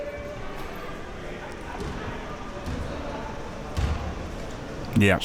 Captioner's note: spectators chattering